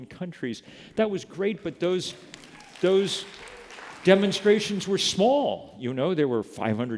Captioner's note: applause